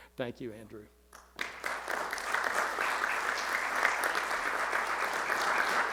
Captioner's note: audience clapping